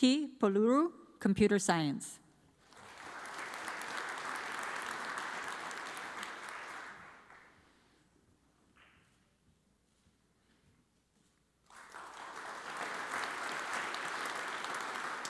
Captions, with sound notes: Deepki Paluru, Computer Science. (audience applauds) (audience applauds)